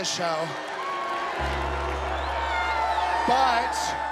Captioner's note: booing